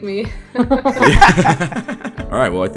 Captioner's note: laughter; laughs